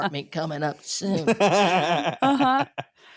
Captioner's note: laughing